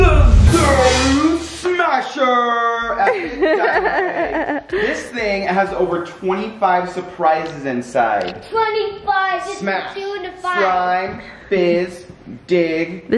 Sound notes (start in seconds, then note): 3.0 laughing